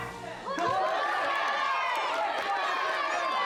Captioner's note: all cheering and applauding